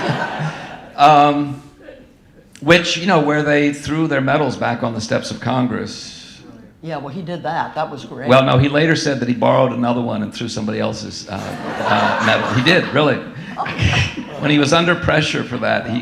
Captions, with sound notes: (audience laughing) Which, you know, where they threw their medals back on the steps of Congress. Yeah, well he did that. That was great. Well, no, he later said that he borrowed another one and threw somebody else's medal. He did, really. When he was under pressure for that,